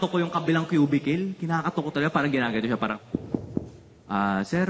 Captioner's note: knocking